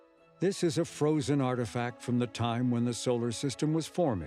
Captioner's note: none